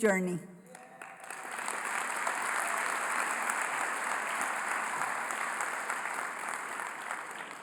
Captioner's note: applause